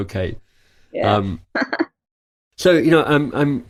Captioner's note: laughs